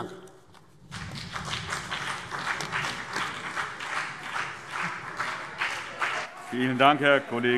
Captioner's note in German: Beifall BÜNDNIS 90/DIE GRÜNEN und vereinzelt CDU